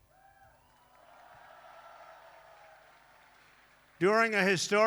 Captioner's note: applause